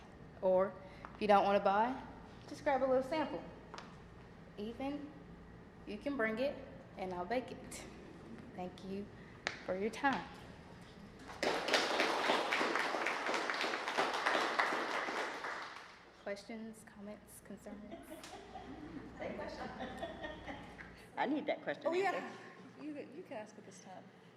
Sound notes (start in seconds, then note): 11.2 applause; 17.9 laughing